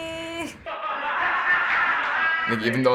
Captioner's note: in video: laughter